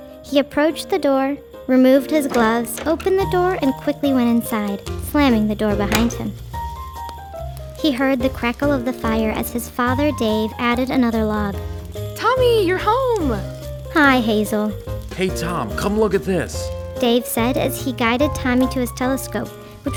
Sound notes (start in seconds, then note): 5.8 door latch clicking; 11.4 fire crackling